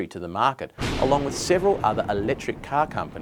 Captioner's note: loud banging